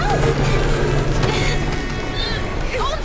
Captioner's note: grunts